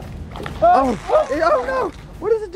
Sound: all screaming

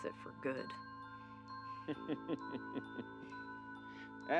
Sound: laughs

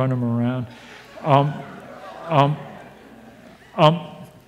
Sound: audience laughs

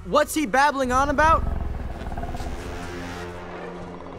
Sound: growling

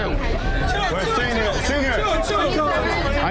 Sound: patrons ordering loudly

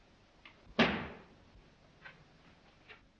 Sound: bang

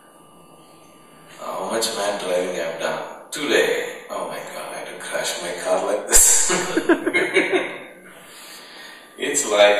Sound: laughter

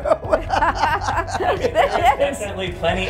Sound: laugh

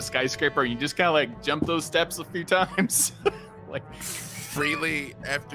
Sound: laughs

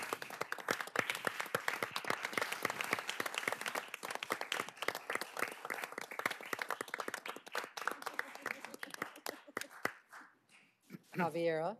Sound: applause

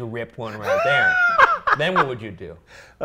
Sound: laughs

